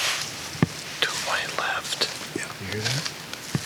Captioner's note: whispers